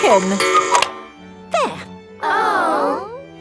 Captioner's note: cuckoo clock